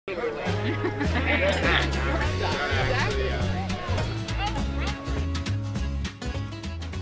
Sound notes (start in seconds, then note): 0.5 laughter; 2.9 chatter